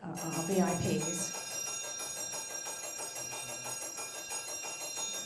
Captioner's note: bell rings